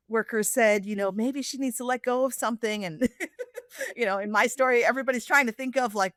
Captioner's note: laughs